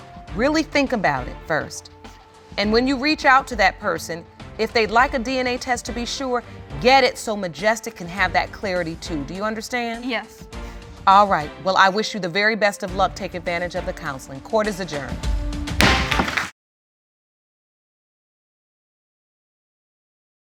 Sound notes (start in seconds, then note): 15.5 applause; 15.8 gavel bangs